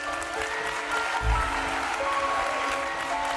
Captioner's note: cheers and applause